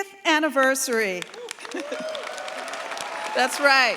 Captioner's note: cheers, applause